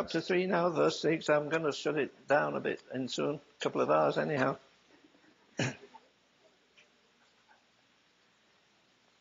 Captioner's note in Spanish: risas